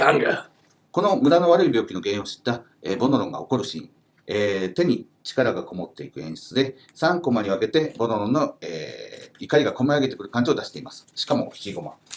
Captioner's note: speaking Japanese